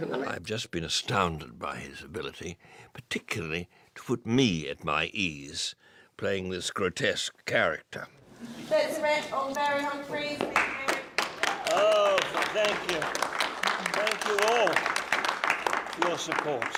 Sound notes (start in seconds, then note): 10.2 people clapping